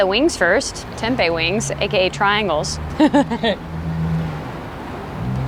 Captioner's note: laughs